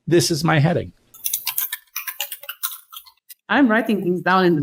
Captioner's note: types on keyboard